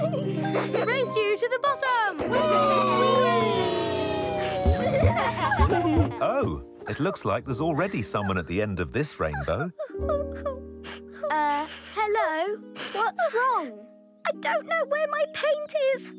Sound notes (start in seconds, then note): 9.4 crying